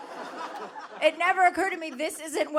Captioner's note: audience laughing